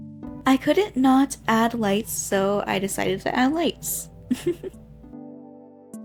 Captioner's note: giggles